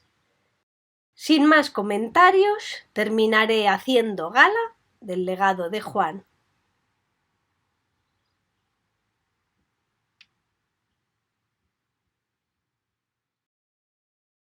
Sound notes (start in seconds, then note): 6.4 the silence